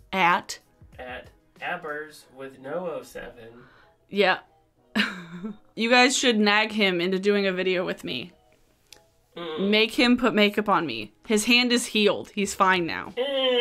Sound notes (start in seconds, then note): 4.8 laughing; 13.2 groaning